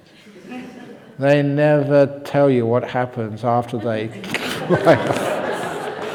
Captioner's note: laughter